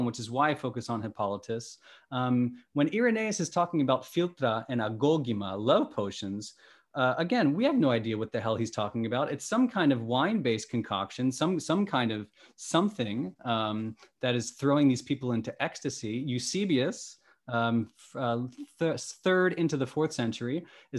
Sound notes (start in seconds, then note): 4.8 speaking greek